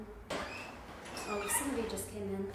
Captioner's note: door squeaks